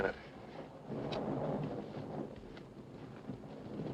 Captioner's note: thunder rumbling